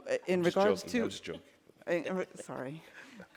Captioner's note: speaking offscreen